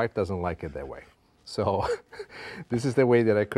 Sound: laughs

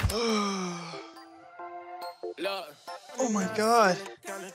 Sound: Vinny yawns

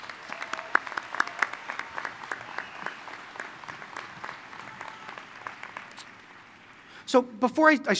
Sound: applause

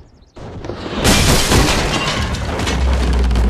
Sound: cannon ball breaks through window; wood crumbling

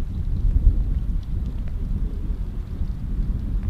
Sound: wind blowing

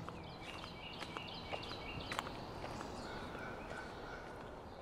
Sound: footsteps thumping; birds chirping

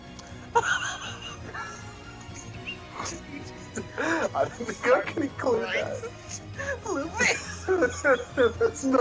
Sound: both laughing in WTF

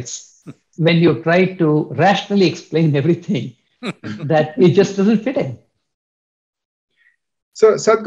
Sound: Sadhguru laughs

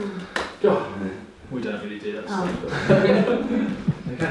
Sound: laughs

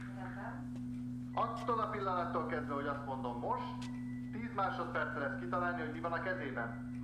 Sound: speaking Hebrew; TV chatter continues

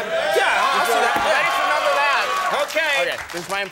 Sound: audience cheering

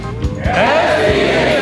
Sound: in Unison

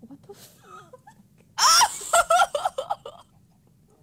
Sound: screams and then laughs

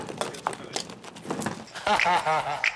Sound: laughing

